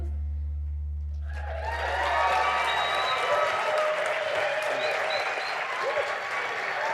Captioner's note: audience applauding and cheering